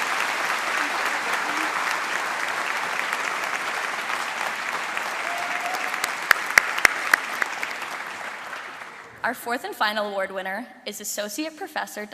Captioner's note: applause and cheering